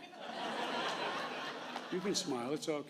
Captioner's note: laughter